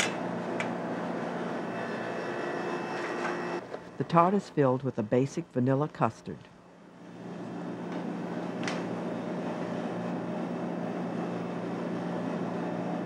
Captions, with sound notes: - [Voiceover] The tart is filled with a basic vanilla custard.